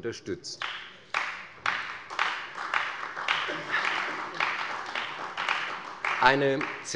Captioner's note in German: Beifall bei der CDU